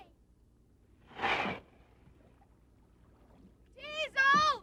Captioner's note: sand crunches